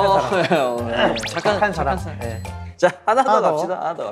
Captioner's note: scratching